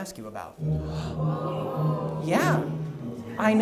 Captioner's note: audience ohs